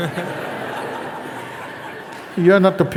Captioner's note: laughter